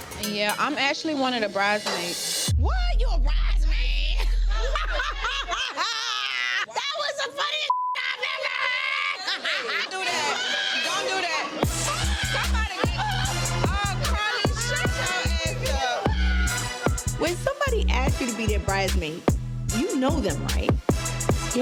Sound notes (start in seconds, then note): 4.1 laughs; 7.7 beep; 9.4 laughs; 16.1 laughing